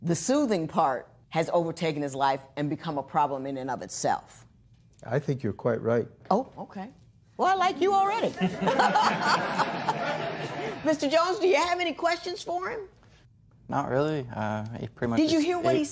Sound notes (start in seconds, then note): 8.3 laughter